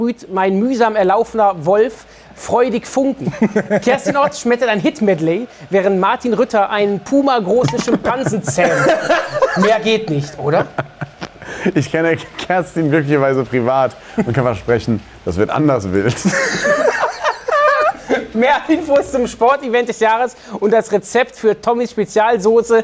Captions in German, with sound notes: sprüht mein mühsam erlaufener Wolf freudig Funken. Kerstin Ott schmettert ein Hit-Medley, während Martin Rütter einen pumagroßen Schimpansen zähmt. Mehr geht nicht, oder? Ich kenne Kerstin glücklicherweise privat und kann versprechen, das wird anders wild. (Gelächter) Mehr Infos zum Sport-Event des Jahres und das Rezept für Tommis Spezialsauce ...